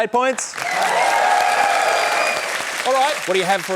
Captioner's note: cheering, applause